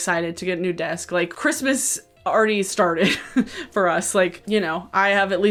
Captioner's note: giggles